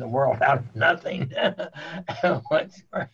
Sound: chuckles

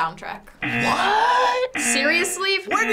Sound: buzzer

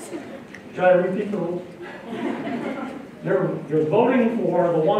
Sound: laughter

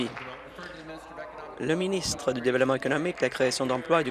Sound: applause

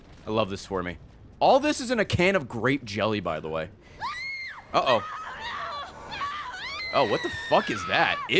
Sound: screams

